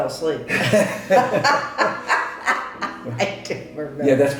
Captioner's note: both laughing